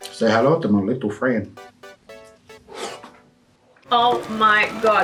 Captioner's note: breathes in